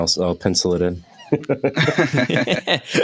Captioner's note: laughter